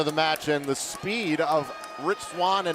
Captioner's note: crowd cheering